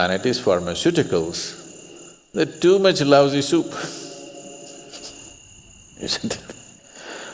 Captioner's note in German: Lacht